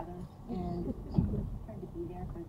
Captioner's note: passenger chuckles